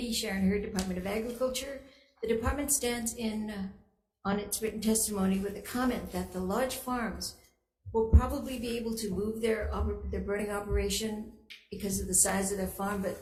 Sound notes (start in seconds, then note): none